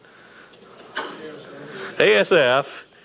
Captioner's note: audience murmuring